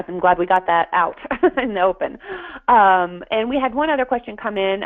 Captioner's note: laughter